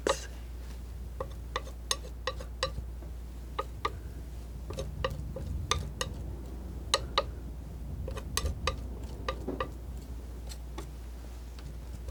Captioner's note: scratching